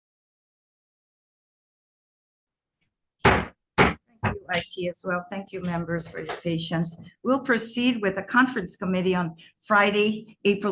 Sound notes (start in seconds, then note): 3.2 gavel banging